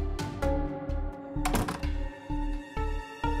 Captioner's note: door closed